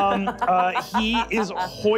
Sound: laughing

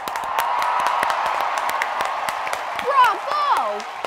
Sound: audience cheering; clapping

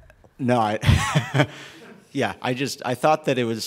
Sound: laughs

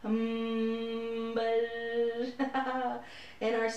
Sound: humming sound; buzzing sound; laughter

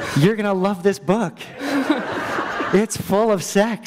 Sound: laughter

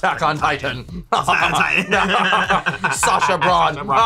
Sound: laugh; evil laughs

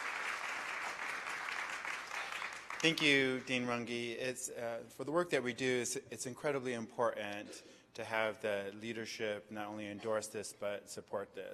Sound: applause

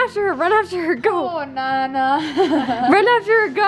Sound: laughs

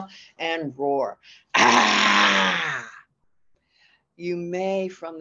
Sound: roar

